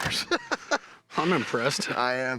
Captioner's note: laughs